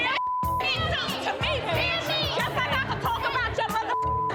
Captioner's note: beep; all murmuring